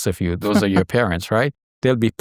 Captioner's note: chuckling